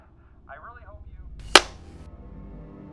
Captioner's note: The receiver slams down as Ludlow hangs up